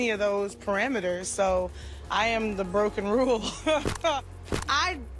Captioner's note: chuckles